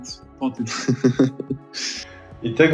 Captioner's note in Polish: śmiech